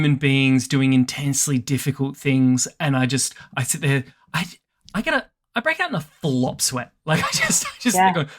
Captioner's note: chuckles